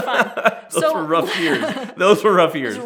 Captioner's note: laughs